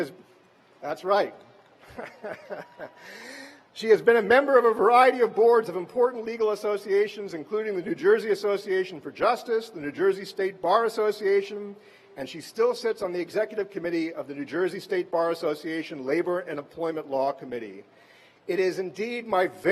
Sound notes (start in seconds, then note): 2.4 cheers; 3.6 laughter